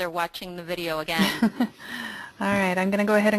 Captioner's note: laughing